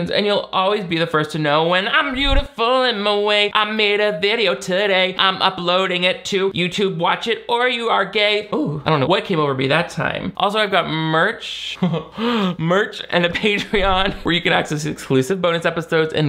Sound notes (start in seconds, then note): 13.2 chuckles